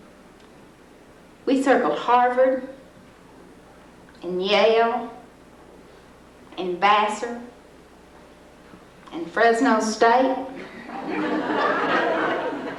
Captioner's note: laughter